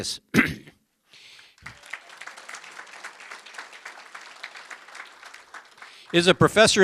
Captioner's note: applause